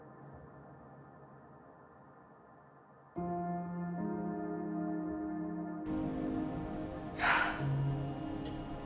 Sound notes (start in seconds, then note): 7.1 Helen exhales